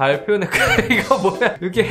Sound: laughing

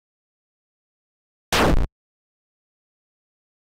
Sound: 8-bit Ka-boom

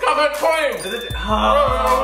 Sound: bell dings

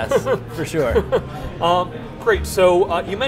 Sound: chuckling

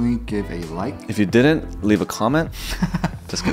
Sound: laughs

